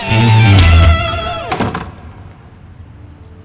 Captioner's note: Door closing